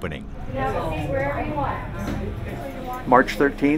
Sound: people chatting

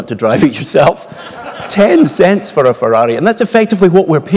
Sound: laugh

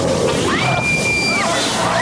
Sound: screaming

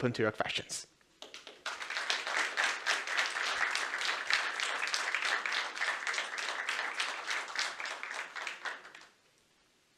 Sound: applause

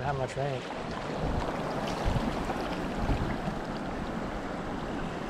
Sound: splashing

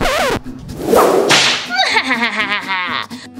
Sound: Romeo whooshing and slashing; Romeo laughing

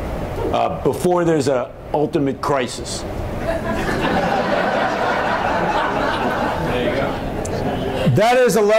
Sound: laughter

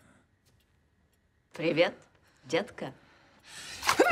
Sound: speaks in Russian

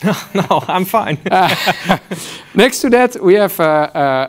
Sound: laughs

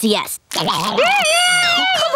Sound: screaming

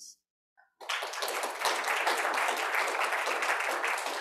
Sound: audience applauding

